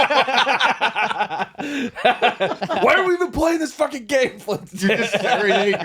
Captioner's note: laughing